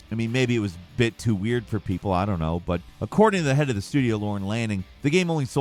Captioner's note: none